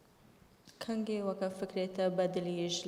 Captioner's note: speaking kurdish